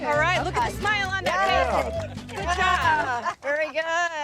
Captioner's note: group cheering